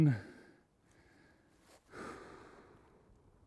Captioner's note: takes a breath